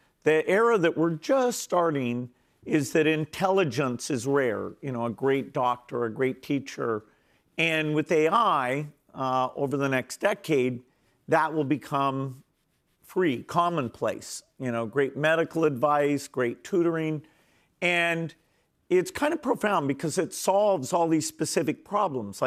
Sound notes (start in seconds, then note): none